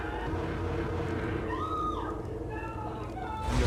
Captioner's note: sounds of commotion and gunfire; screaming